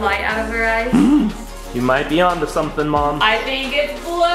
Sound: gasps

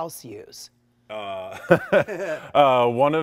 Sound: both laughing

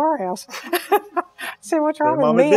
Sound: laughs

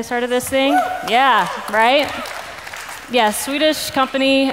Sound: cheers in audience

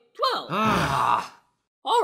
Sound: the 3 groan

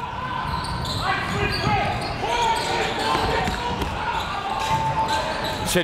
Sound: coaches yelling; crowd talking

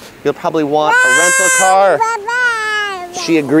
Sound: child squealing

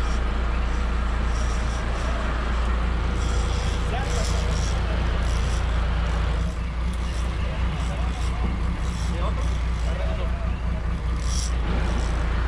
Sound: reel cranking; background chatter

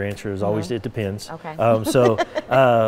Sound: laughing

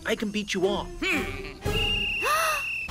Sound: whistle blowing

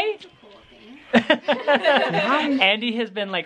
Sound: laughing

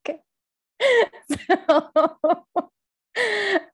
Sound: laughs

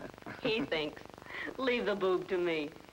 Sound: man chuckling

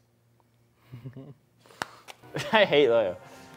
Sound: laughs

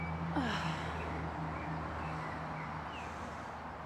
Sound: Harper sighs

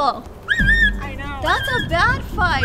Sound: squeeling

